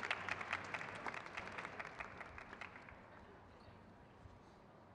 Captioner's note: crowd cheers